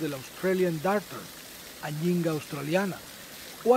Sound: rain

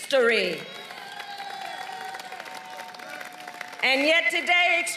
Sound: applause

